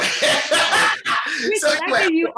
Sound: chuckles loudy

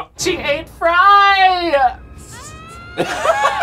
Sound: Leela screams; both laugh

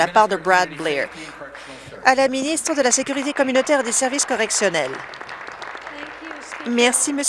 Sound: some Applause

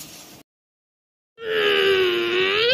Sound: blowing

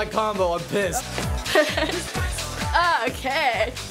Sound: laughing

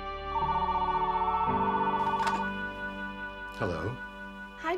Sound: telephone ringing

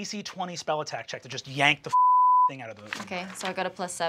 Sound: beep

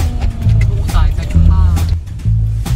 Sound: Cantonese

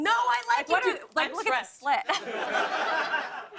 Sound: laughter

